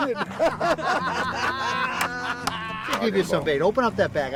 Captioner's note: laughing